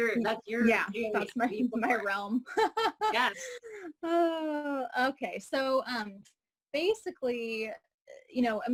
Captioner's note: laughing; laughing